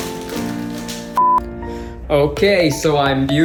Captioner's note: beeps